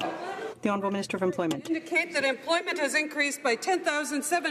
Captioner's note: some Applause